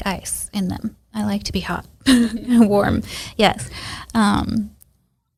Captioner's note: laughs